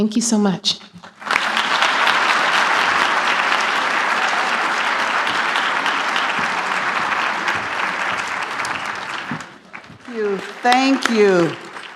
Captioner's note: applause